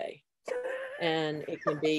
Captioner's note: laughs